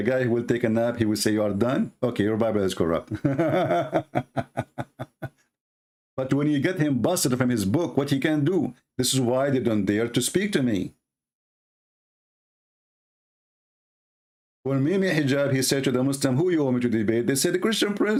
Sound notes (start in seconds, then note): 3.1 Ketawa